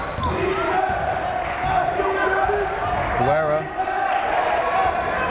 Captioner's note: chanting; clapping